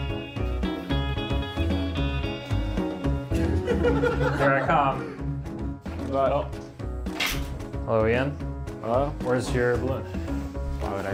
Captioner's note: audience laughter